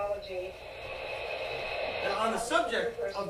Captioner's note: water rushing